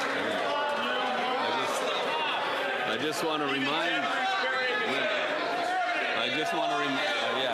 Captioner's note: applause